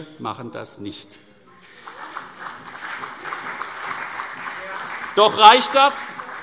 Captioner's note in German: Beifall